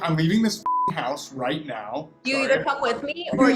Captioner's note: beep